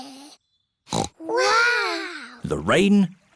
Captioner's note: peppa snorts